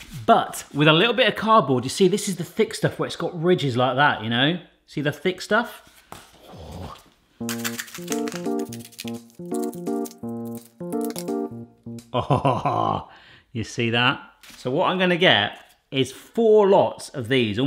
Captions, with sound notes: But, with a little bit of cardboard, You see this is the thick stuff where it's got ridges like that, you know. See the thick stuff? Oh! (upbeat electronic tune) (loud snipping) Awhaha! You see that? So what I'm gonna get is four lots of these.